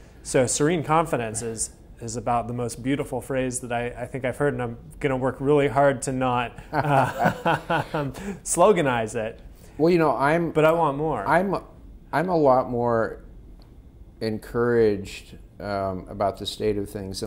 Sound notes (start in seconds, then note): 6.6 laughing; 6.7 laughs